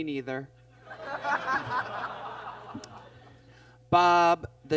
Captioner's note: audience laughs